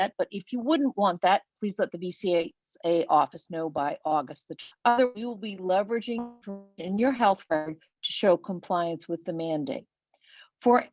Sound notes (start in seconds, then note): 4.3 web-call distortion